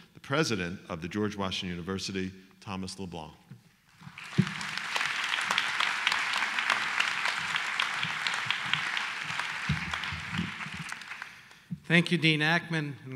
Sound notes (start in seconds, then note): 4.0 applause